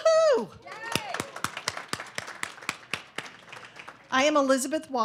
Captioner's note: audience applauding